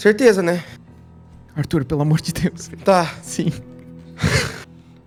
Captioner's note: laughter